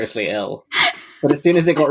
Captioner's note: laughs